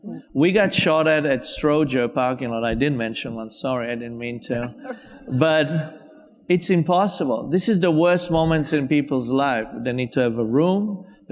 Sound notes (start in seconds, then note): 4.5 laughs; 4.6 audience laughs